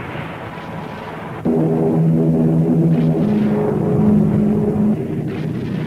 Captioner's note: plane engines roaring